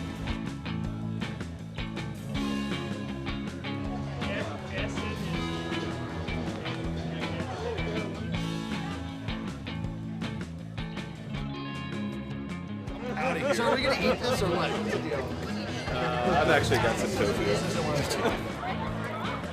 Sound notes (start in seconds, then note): 5.4 chatter